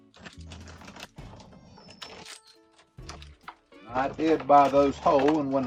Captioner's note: plastic bag crinkling